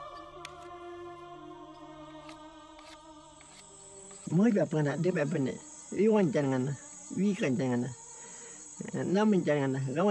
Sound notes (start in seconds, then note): 4.3 speaking in foreign language